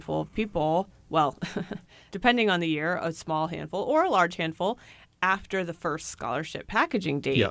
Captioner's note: chuckles